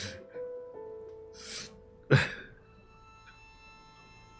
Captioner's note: laughing